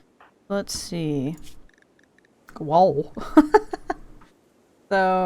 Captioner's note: laughs